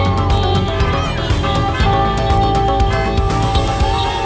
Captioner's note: crowd cheering